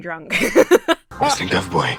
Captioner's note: Emma laughs